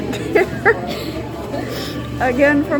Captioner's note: laughing